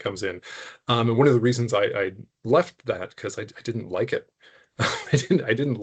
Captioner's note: chuckling